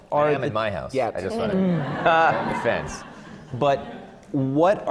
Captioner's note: laughter